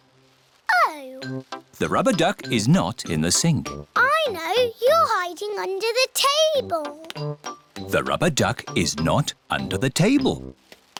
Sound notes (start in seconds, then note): none